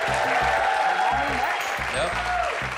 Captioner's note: cheers and applause